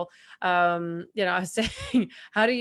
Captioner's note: chuckles